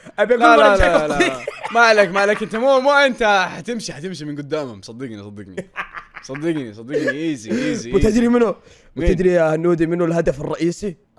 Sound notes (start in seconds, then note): 5.6 laughs